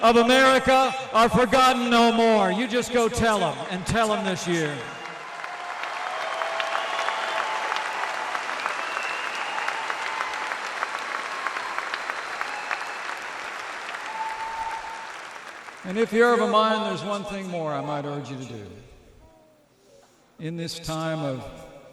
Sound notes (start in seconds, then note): 4.6 applause